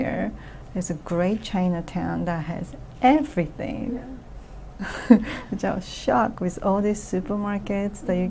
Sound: laughs

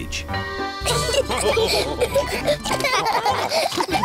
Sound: all laugh

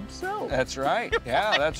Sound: laughing

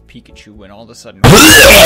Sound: loud warning

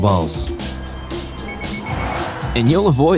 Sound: alert sound

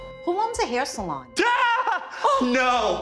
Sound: shouts

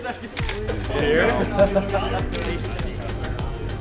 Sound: laughter; camera Clicks

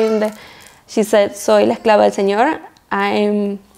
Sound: speaks in foreign language

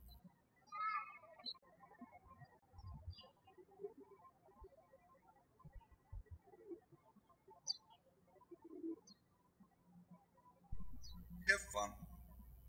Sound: birds chirping

